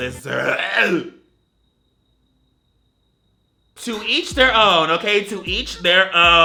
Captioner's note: gags